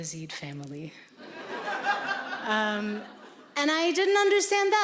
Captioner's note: audience laughing